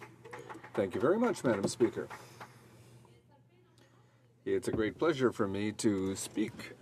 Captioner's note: applause